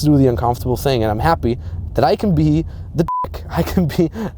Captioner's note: beep